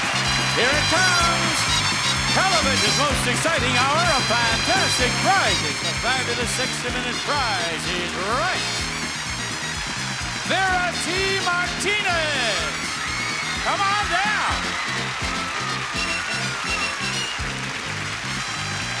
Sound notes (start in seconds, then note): 8.8 audience applauding; 14.4 theme song continues